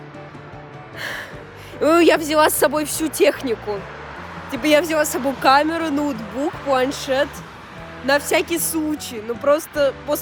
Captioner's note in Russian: вздох